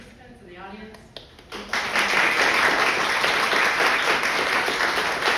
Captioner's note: crowd applauding